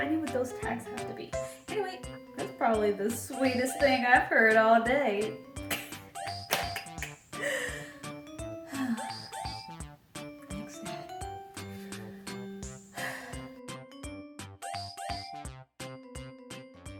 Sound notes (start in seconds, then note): 5.7 laughs; 8.6 sighs